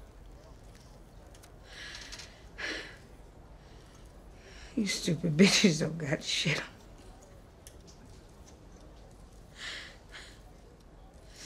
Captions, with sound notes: (inhales and exhales) You stupid bitches don't got shit on me.